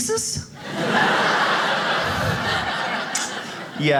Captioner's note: audience laughs